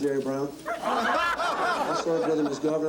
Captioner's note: laughing